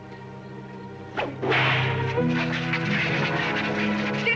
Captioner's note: cracking whip